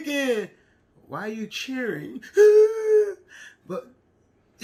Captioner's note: crying